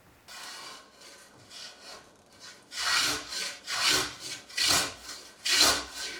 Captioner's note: blade on wood rhythmically scraping